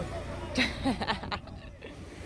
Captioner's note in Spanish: risas